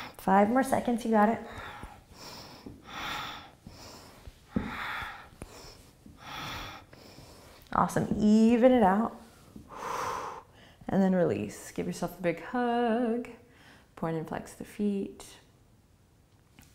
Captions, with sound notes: Five more seconds, you got it. (breathing) Awesome, even it out. And then release. Give yourself a big hug. Point and flex the feet.